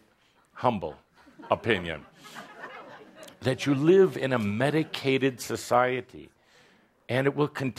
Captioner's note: laughter